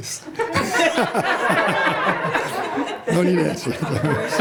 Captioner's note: laughter